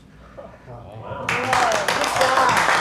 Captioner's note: surprised whispers; audience clapping